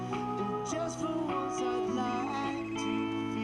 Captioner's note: phone ringing